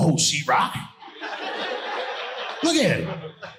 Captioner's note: audience laughing